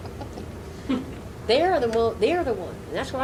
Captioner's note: laughing